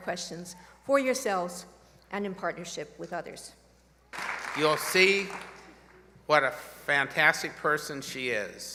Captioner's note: applause